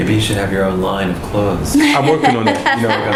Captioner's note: laughter